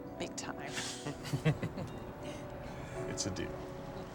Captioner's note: chuckling